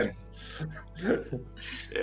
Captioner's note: смеются